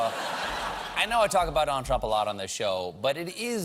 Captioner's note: laughter